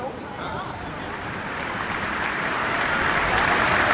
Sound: crowd speaking foreign language; applause

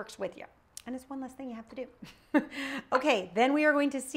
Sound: chuckles

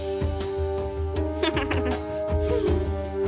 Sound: giggling

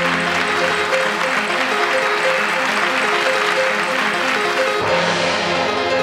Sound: applause

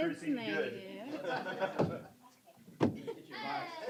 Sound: laughter

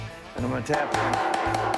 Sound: loud tapptapping

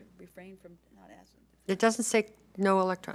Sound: speaking faintly

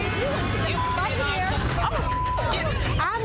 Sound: beep

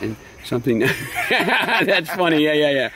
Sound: laughing

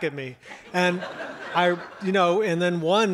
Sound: audience laughs

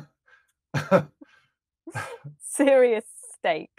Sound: both chuckling

